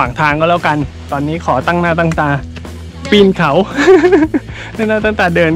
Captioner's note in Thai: ขำ